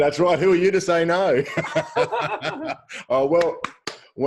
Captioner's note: laughs